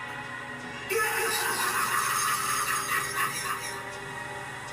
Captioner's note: spooky voice speaking; laughing spookily; gentle music